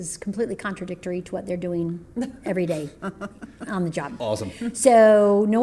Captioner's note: laughter